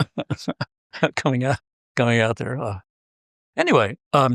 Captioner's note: laugh